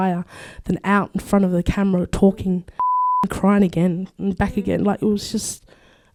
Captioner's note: beep